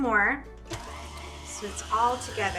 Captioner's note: mixer whirring